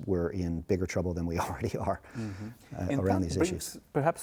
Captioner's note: laughs